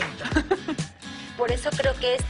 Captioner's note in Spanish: Ríe